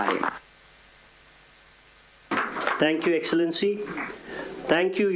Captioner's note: applause